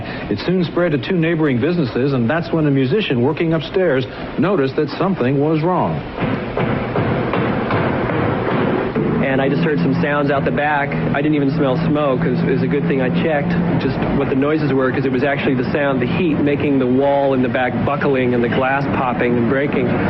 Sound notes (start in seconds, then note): 5.5 hammers pounding